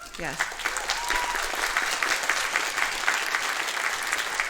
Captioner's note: audience clapping